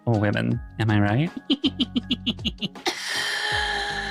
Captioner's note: laughing